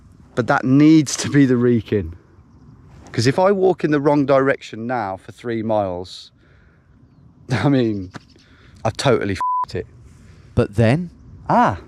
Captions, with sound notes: But that needs to be The Wrekin, 'cause if I walk in the wrong direction now for three miles, I mean, I totally (beep) it. But then, ah.